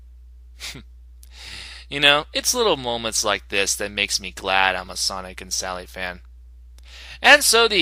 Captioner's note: chuckle